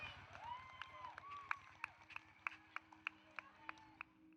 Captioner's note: cheering